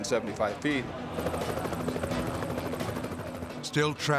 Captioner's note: helicopter whirring